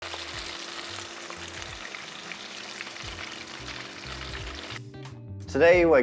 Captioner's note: sizzling sound